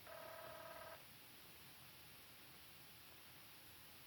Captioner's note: phone ringing